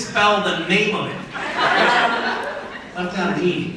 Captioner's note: crowd laughs